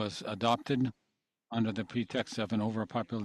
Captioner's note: speaking French